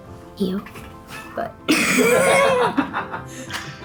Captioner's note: laughs